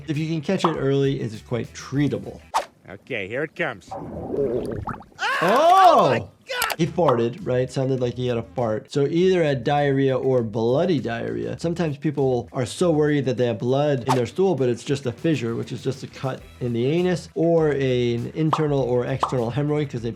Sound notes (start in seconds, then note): 3.9 fart bubbling; 5.1 Quagmire screaming